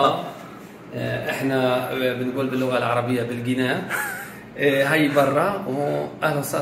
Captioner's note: laughs